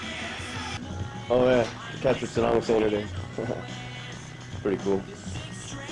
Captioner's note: chuckles